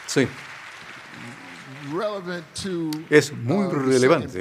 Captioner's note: cheers and applause